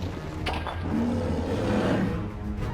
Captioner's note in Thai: เสียงคำราม